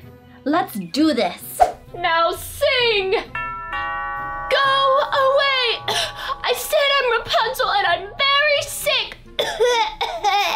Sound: doorbell

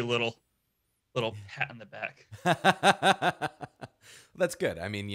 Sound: laughing

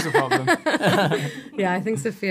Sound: laughter

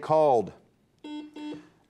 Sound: buzzer beeps

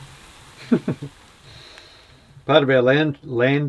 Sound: laughs

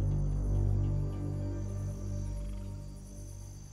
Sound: insects trilling

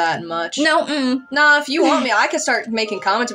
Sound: chuckle

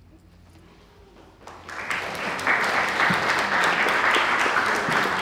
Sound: applause

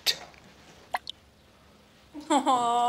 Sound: water drip

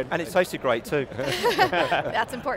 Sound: laughing

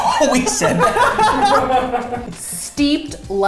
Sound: laughs

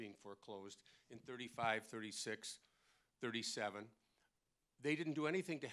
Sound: none

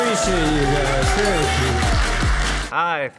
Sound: audience cheering

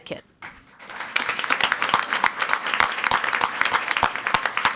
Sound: crowd clapping

